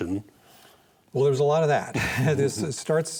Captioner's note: both chuckle